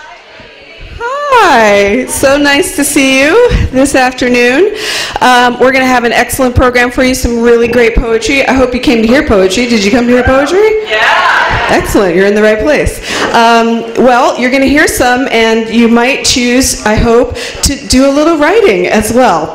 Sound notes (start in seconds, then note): 10.8 audience cheers